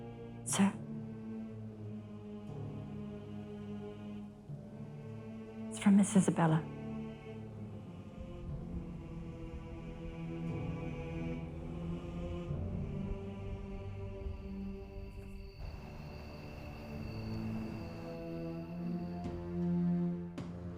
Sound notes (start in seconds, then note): 7.7 soft dramatic music; 13.5 crickets chirping; 17.4 soft dramatic music